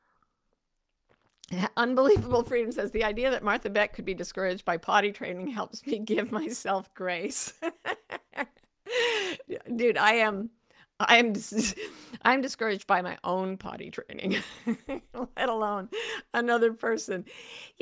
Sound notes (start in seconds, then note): 7.5 laughs; 10.6 chuckles; 14.8 laughs